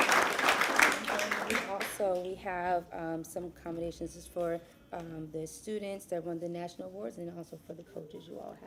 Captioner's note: applause